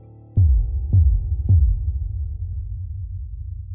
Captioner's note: logo booming